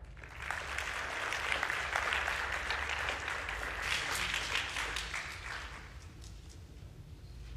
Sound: applause

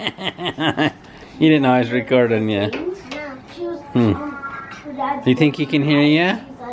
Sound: chuckling

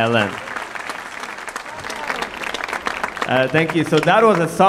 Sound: audience applauding

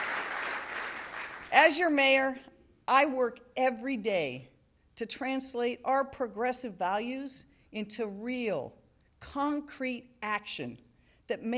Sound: applause

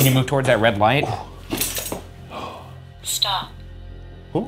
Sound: chain rattling

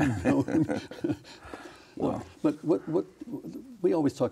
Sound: both laughing

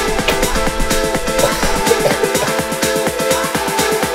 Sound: coughing

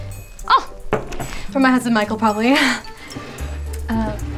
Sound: exhale

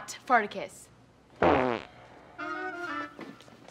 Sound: farting

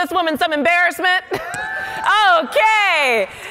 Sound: laughing; audience cheering

